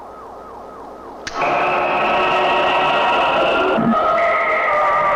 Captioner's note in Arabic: هدير محرك الصاروخ